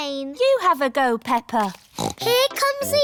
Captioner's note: snorts